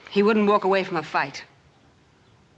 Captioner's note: none